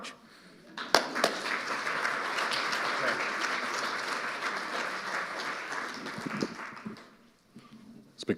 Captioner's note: audience applauding